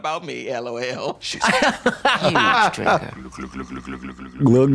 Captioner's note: blonde Women hee-hee